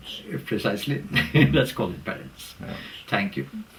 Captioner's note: laugh